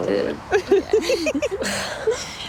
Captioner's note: laughing